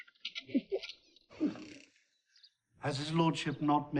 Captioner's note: chuckles